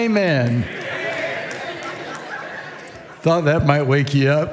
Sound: congregation laughing

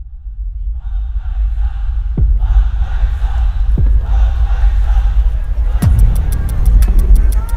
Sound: crowd cheering

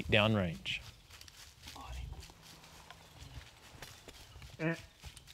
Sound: whispering

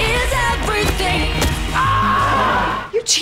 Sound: screaming

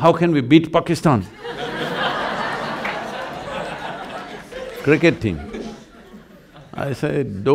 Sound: laughter

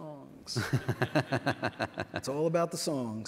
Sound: laughs

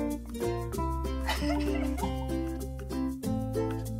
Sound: crying

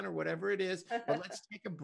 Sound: laughs

